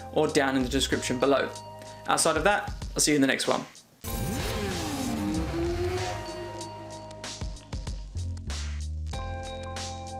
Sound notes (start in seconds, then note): 4.0 motorcycle engine revving; 6.9 upbeat music